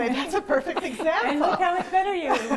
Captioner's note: laughter